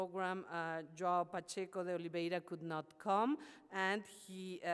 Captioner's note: speaks foreign language